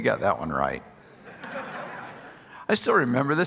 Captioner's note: audience laughing